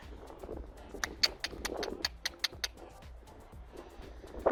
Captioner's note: click